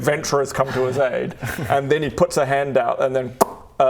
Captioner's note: pop